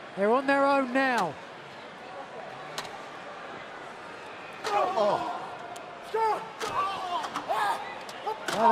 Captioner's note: crowd chatter